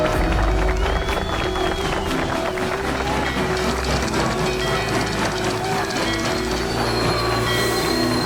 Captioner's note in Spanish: Aplausos